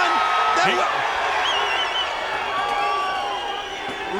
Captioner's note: crowd cheering